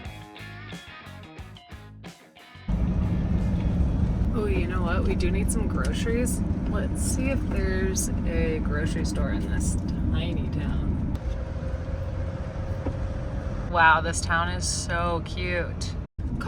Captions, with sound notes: (vehicle rumbling) Oh you know what, we do need some groceries. Let's see if there's a grocery store in this tiny town. Wow, this town is so cute.